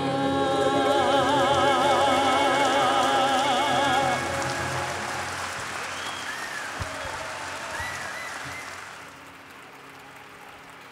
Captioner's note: applause